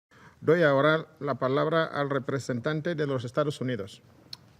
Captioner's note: in Spanish